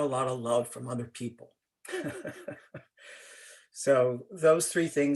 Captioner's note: laughter